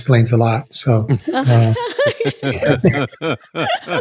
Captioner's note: all laughing